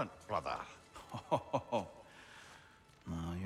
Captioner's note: laughing